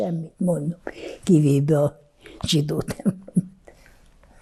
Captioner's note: laughing